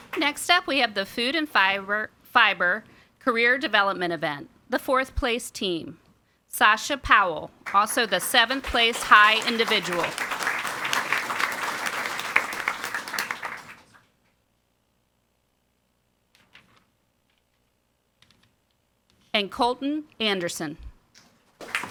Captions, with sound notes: Next up we have the Food and Fiber Career Development Event. The fourth place team. Sascha Powell, also the 7th Place High Individual. (audience applauding) And Colton Anderson.